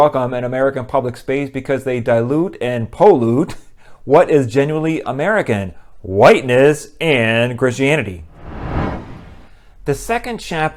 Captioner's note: swoosh